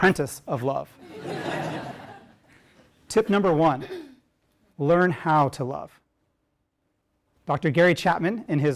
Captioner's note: laugh